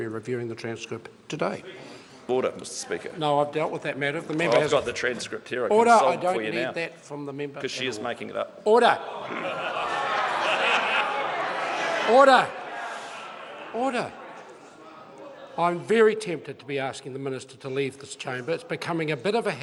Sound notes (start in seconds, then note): 9.0 members shout